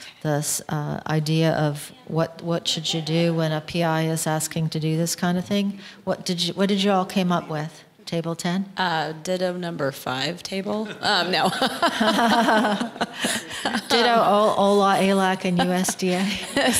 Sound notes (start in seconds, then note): 11.4 laughter